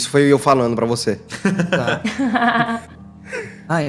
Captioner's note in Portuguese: risadas